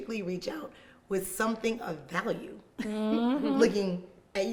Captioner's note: laughing